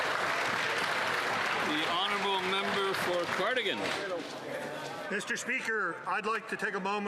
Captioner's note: some Applause